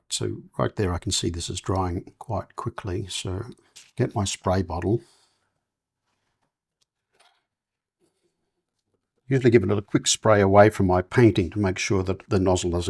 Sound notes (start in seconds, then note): 5.4 silence